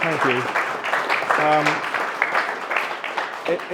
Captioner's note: applause